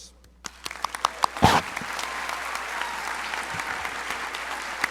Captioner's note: crowd applauding